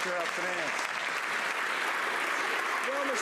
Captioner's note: some Applause